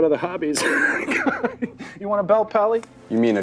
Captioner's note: laughing